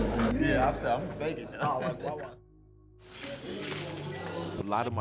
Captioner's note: laughs